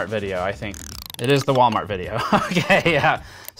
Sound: laughing

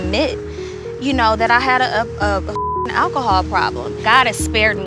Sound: beep

